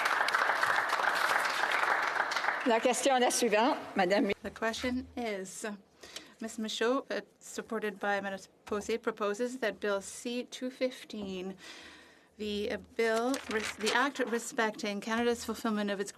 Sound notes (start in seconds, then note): 3.1 some Applause